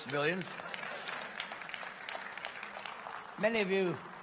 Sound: applause

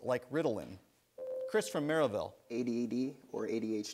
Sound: ding

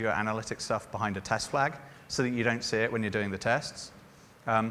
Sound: none

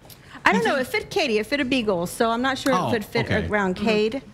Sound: laughter

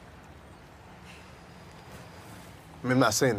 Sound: scoffs

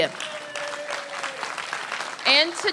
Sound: applause

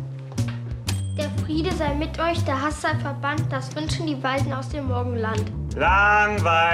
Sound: reciting a poem

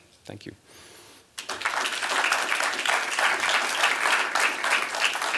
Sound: applause

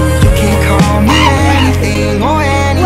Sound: screaming

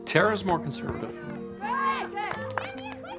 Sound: cheering

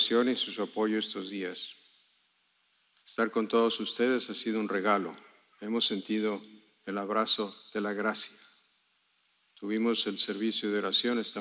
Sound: speaking spanish

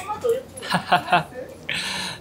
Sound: laughs

